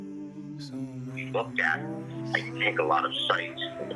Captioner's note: homem sobre o alto-falante